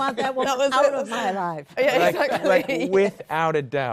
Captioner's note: laughter